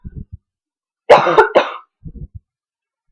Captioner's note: insert cough here